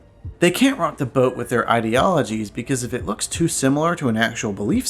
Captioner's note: none